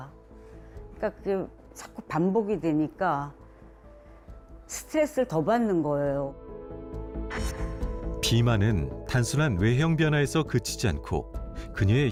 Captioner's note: voiceover